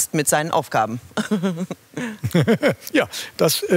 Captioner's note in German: lacht